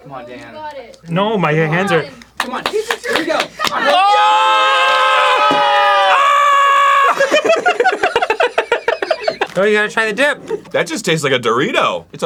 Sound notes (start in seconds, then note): 2.3 starts a clap; 5.4 everyone is screaming; 6.1 screaming in conquest and glory